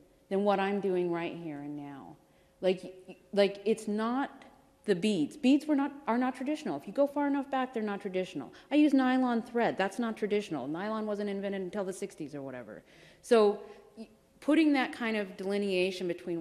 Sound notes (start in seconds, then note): none